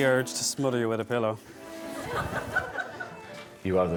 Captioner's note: guests laughing